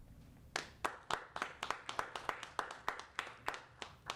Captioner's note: applauding